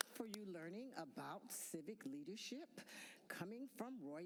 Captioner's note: applause